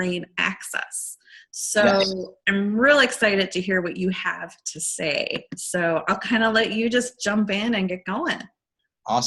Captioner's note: excited